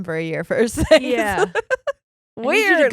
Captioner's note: giggled loudly